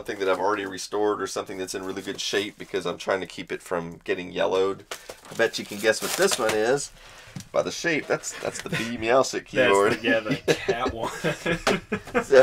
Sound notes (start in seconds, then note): 9.6 laugh; 9.6 laughs